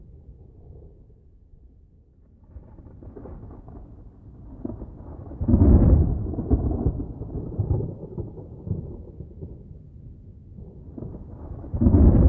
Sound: sounds of a thunderstorm can be heard

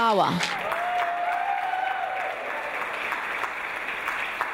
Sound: audience applause

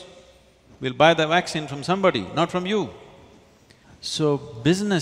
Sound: none

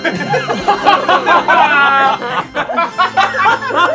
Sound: laughing

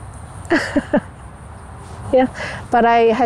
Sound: laughing

